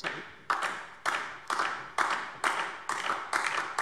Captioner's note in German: Beifall DIE LINKE